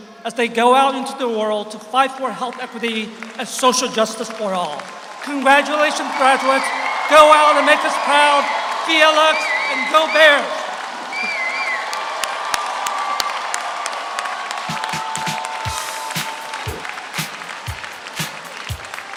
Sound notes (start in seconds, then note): 11.7 audience applauds; 11.7 audience cheers; 14.6 upbeat groovy music